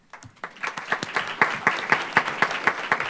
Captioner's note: applause